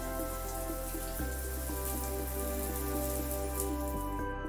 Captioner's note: water patters